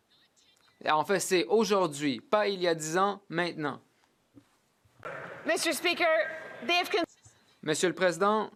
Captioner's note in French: voix de l'interprète